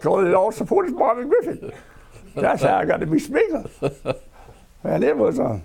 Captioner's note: laughter